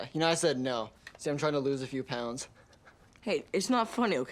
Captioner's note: chuckles